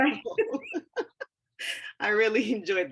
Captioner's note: laughing